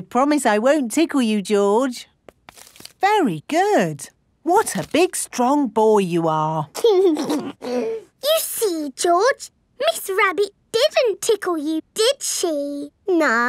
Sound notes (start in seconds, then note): 6.8 giggles